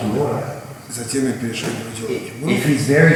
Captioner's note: speaking in a foreign language